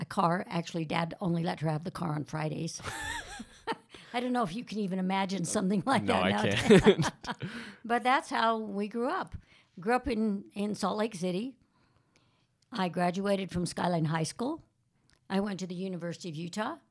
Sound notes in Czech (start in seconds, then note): 2.5 Smích; 5.9 Chichotá se